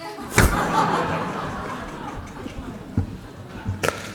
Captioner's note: laughter